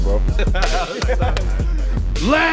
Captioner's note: laughing